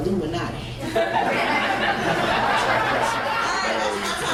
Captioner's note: crowd laughs